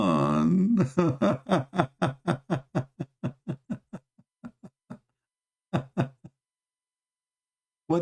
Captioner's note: Ketawa